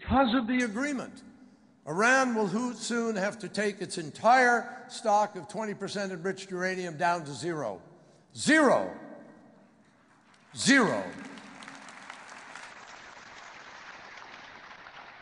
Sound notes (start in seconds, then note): 9.9 applause